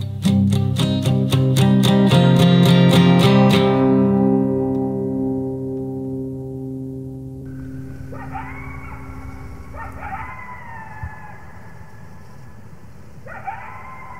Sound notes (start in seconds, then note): 0.2 guitar strumming; 8.9 coyotes barking